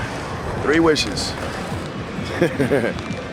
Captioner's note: laughing